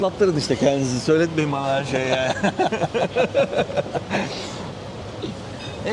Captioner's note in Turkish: kahkaha